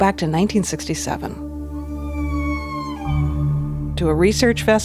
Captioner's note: whale calling